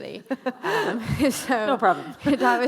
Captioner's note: laughing